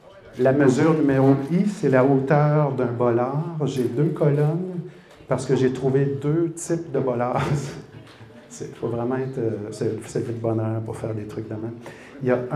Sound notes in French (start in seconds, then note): 7.4 rires